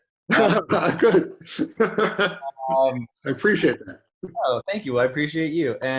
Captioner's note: laughs